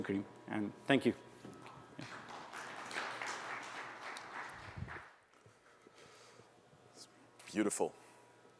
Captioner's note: applause